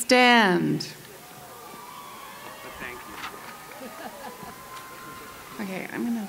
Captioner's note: cheers